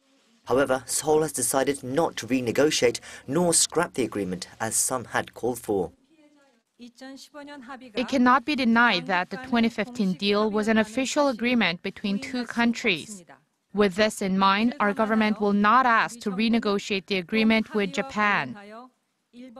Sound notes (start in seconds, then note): 6.8 Korean